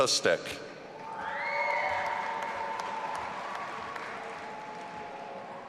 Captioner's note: audience applauding and cheering